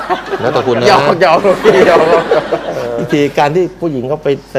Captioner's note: laughing